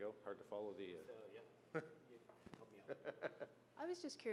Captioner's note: laughs